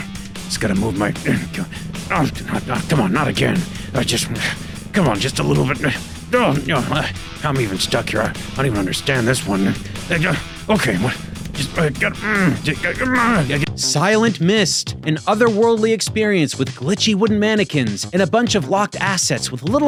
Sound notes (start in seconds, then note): 2.0 snarling; 6.1 grunting; 12.8 grumbling